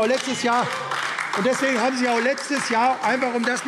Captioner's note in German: Beifall AfD